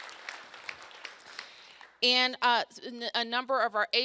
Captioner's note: applause